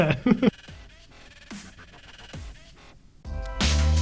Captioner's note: chuckles